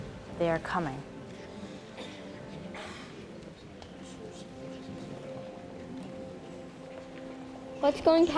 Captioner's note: people murmuring